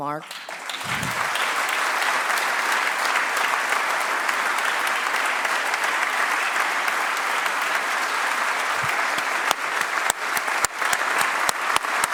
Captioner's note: applause